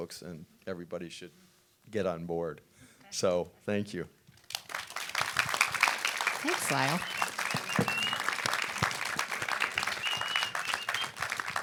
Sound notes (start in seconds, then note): 4.4 audience applauding